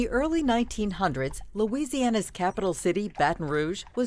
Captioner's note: horse hooves tapping